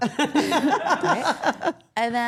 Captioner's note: all laughing